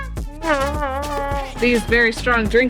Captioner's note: imitates air horn